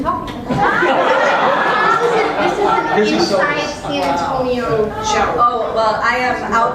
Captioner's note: laugh